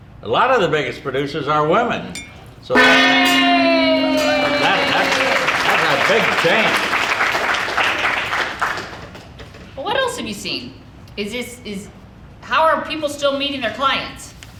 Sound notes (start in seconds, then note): 2.7 gong banging; 2.8 women cheering; 3.9 audience applauding